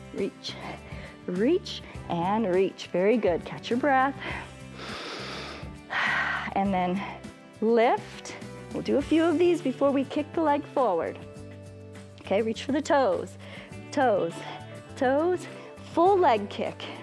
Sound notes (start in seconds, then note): 4.2 inhales